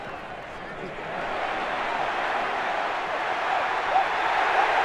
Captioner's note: crowd cheering